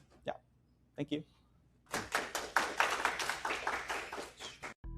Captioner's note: applause